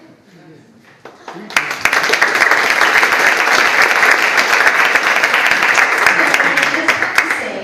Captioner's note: audience Applauds